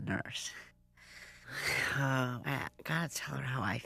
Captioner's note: sighs